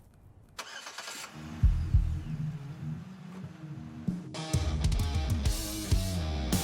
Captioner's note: car engine starts; upbeat rock music